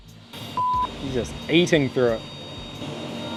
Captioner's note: beep